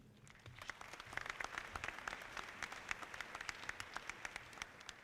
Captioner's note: audience clapping